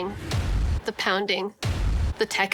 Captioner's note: thud